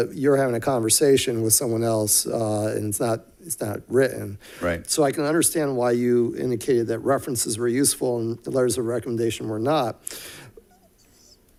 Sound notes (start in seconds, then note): none